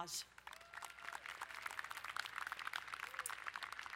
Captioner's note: applauding